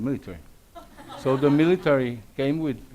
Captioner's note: audience laughs